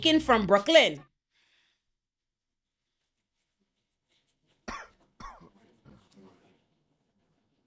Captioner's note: coughing